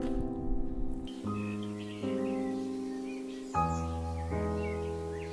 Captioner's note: bird chirping